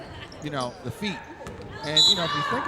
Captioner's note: referee whistling